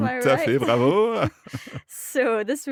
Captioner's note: speaking in foreign language